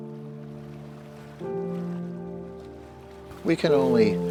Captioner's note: water splashing